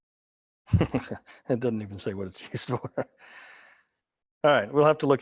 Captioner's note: laughing